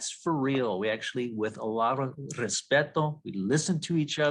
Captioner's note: foreign language